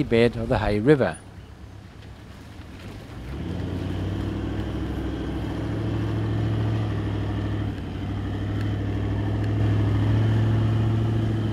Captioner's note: vehicle sounds